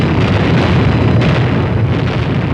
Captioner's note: explosions